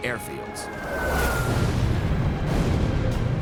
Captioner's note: explosions